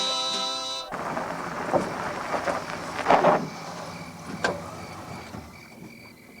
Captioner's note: singing in Spanish continues; crickets chirping; engine rumbling